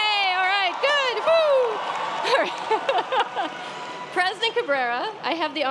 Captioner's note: applause